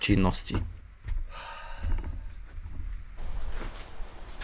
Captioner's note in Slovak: vzdychanie